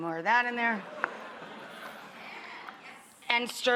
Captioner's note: audience exclaims